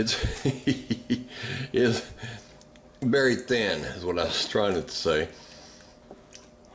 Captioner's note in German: Lacht